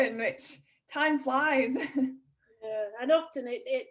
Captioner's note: chuckles